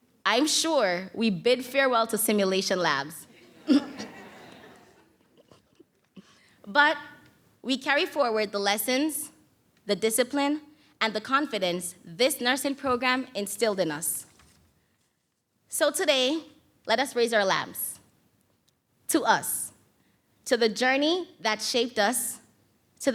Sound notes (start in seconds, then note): 3.3 audience laughs